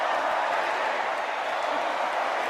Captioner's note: crowd